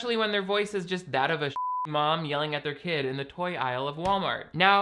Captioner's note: beep